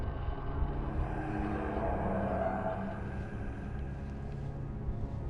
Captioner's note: eerie voices whispering